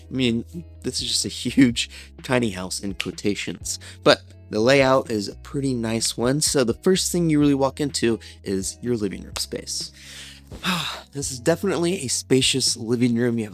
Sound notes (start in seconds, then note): 10.0 sighs